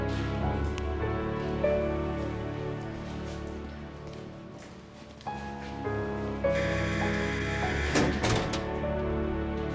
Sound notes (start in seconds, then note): 6.5 door buzzes